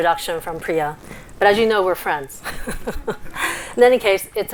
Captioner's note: chuckles